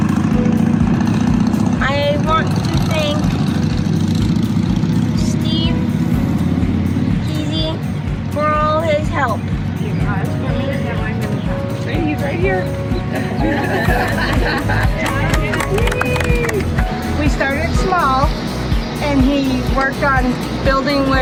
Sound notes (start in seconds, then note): 9.3 group chatter and laughter; 14.8 applause